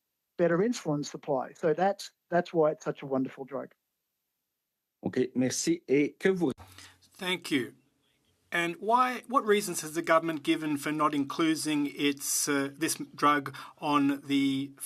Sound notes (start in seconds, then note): 9.0 speaking French